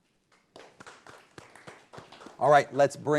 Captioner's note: audience applauding